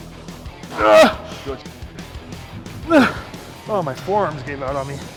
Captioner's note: Ethan grunting